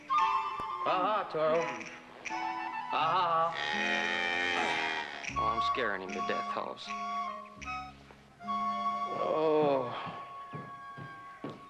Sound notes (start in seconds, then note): 3.5 lowing; 9.2 groaning